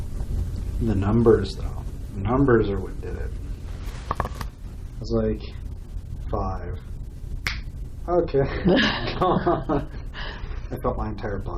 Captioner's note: snaps Fingers